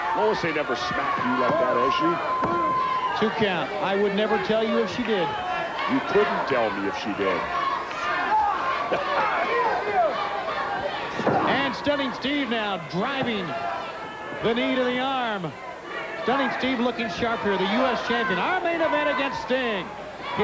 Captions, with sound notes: Lois ain't never smacked you like that, has she? Two count. I would never tell you if she did. You couldn't tell me if she did. (Jesse laughing) And Stunning Steve, now, driving the knee to the arm. Stunning Steve looking sharp here. The US Champion, our Main Event, against Sting